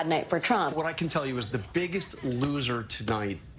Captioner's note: tapping